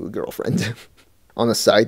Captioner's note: laughs